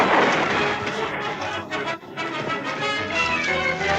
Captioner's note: in spanish